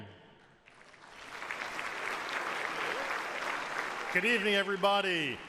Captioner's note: audience applauds